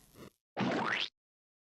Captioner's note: squish sfx